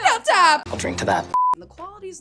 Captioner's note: electronic beeping